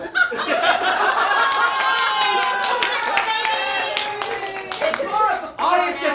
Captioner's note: audience laughing